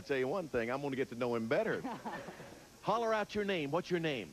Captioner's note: audience laughing